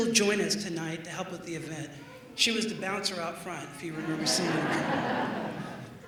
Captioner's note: laughter